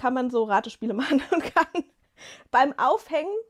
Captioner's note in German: gelächter